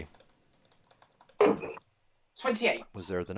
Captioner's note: dart ticks